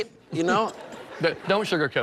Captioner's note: laughs